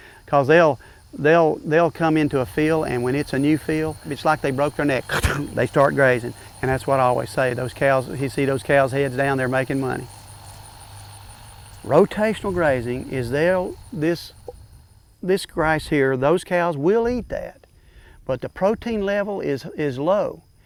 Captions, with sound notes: Because they'll come into a field, and when it's a new field, it's like they broke their neck [chomping sound], they start grazing. And that's what I always say. Those cows -- you see those cows here? They're down there making money. Rotational grazing is they'll -- this grass here, those cows will eat that, but the protein level is low,